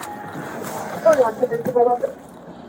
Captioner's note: radio chatter